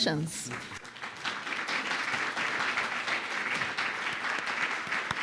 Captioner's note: audience applauding